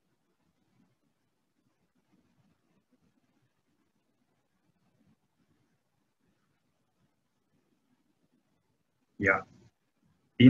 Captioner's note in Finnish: hiljaisuus